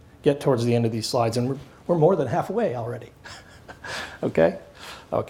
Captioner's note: laughs